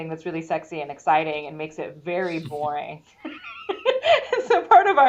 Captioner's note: laughs